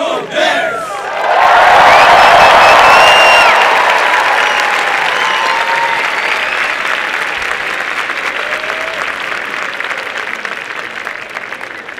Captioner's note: applause and cheering